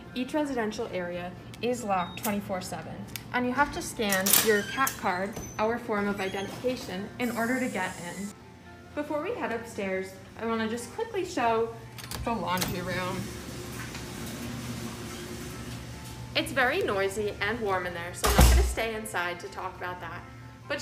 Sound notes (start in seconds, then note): 13.2 laundry machines humming